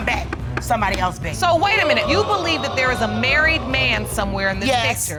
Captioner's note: audience exclaiming